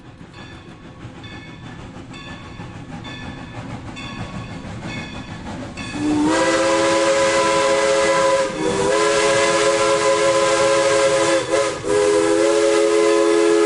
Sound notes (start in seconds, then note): 2.1 steam locomotive wisle